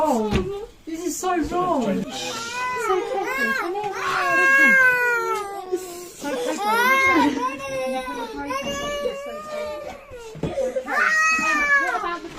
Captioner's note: baby crying